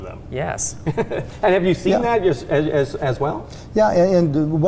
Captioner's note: chuckling